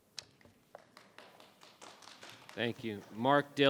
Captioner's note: members clapping